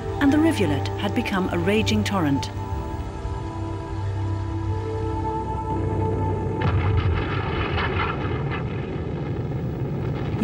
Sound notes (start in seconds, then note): 2.9 suspenseful music; 6.6 gun booming